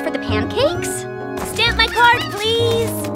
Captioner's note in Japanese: さえずり